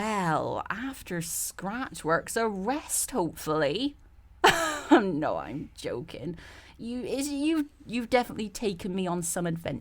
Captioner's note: laughs